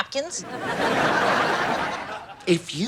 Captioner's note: audience laughs